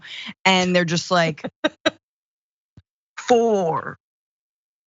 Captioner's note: laugh